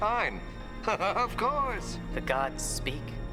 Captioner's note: chuckles